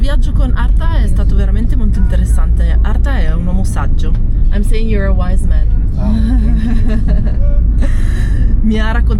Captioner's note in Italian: risate